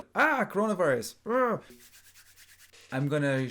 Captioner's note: rubs hands